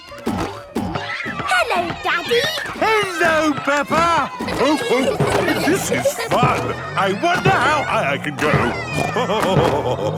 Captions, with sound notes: - Hello, Daddy. - Hello, Peppa! (laughing) This is fun. I wonder how high I can go. (snorting and laughing)